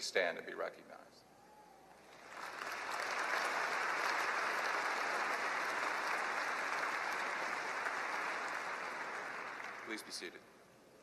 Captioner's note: applause